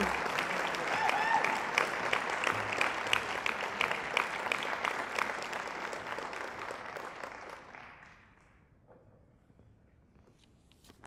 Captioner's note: applause